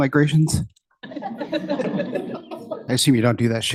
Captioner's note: laughter